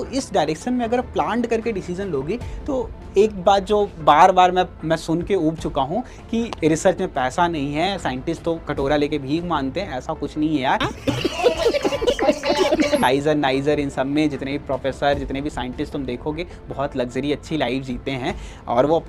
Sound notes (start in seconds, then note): 10.8 laughs